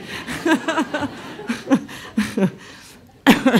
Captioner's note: laughs